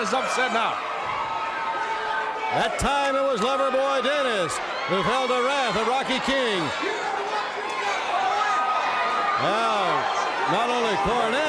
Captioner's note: crowd chatter